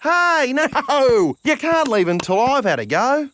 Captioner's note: laughing